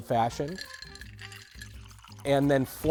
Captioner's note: ice clinking; liquid splashing